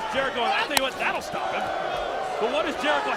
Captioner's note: applause